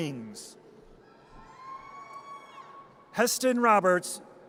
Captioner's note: audience cheers